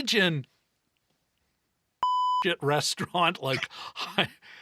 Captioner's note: beep